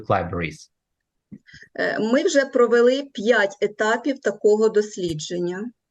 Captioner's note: foreign Language